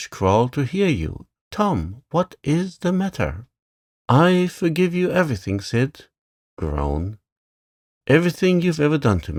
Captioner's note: groan